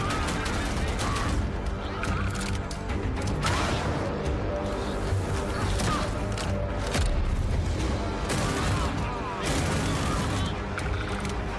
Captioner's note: enemies yelling